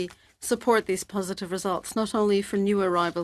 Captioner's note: speaking French